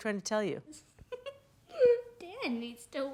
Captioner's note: laughing